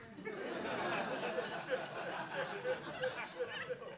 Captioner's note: audience laughing